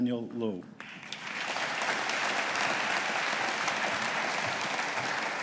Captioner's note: audience applauding